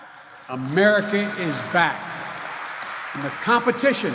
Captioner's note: applause